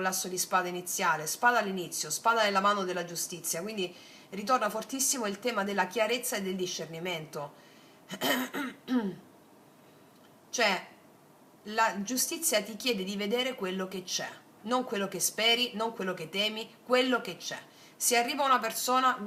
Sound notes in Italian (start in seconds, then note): 8.1 tosse; 8.2 schiarire la voce